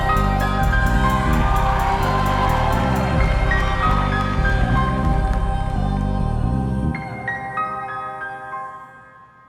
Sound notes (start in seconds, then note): 1.8 audience applauding; 1.8 audience cheering